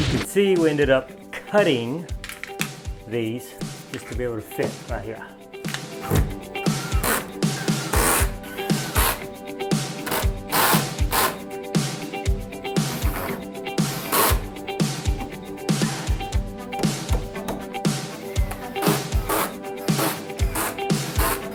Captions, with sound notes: You can see we ended up cutting these just to be able to fit right here. (upbeat music) (drill whirs)